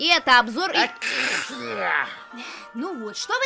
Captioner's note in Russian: Чиханье